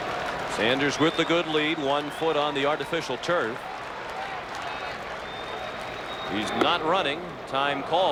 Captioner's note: applause